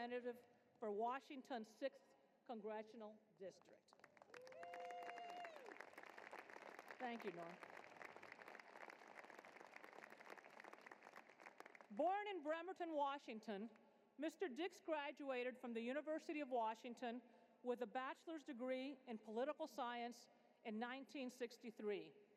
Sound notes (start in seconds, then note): 3.9 applause